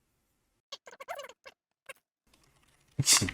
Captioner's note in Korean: 잡담 중